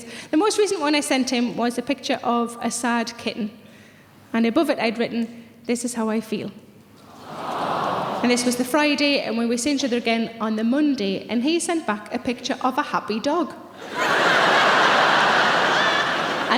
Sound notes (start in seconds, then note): 7.1 audience awws; 13.7 audience laughing